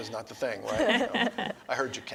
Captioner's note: laughter